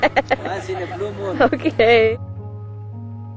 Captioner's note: laughs